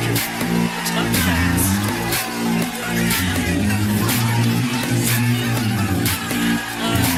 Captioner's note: Aplauze